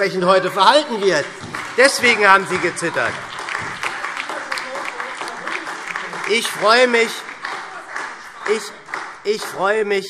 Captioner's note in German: Beifall